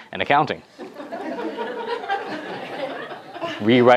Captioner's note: laughter